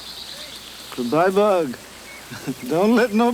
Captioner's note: chuckles